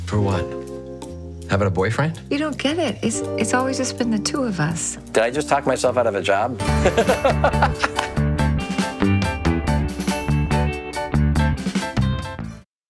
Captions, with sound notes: - For what? Having a boyfriend? - You don't get it, it's always just been the two of us. - Did I just talk myself out of a job? (Patrick laughs) (upbeat atmospheric music)